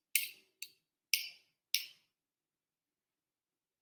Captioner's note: spoon scraping